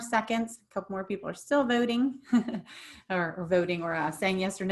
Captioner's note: giggles